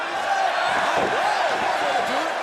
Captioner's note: crowd cheering